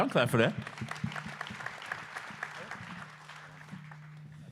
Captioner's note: applause